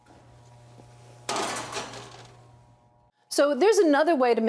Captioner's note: pan rattling